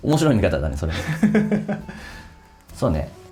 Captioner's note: laughs